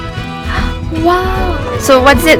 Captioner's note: gasps